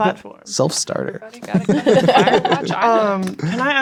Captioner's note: speaking quietly